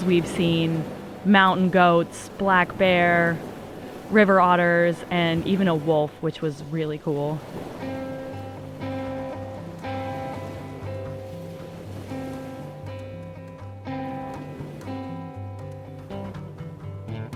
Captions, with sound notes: We've seen mountain goats, black bear, river otters and even a wolf which was really cool. (upbeat music) (waves crashing)